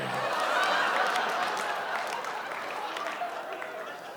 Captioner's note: audience cheers